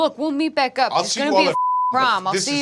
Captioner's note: beep